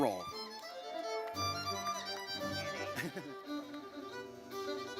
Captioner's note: audience cheers